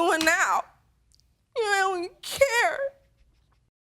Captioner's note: crying